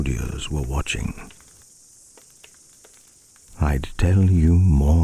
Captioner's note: fire crackling and night insect buzzing